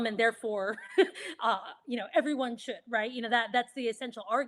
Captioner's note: chuckles